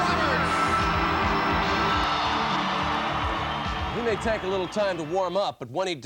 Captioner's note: applause